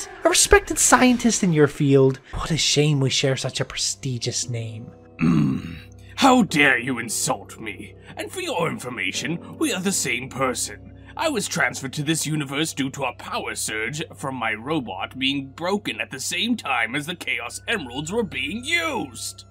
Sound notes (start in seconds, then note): 5.1 Eggman angrily moans